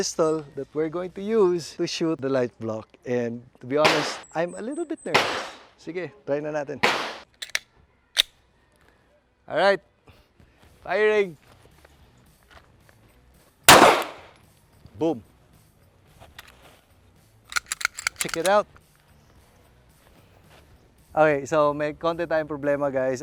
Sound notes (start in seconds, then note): 13.7 gunshot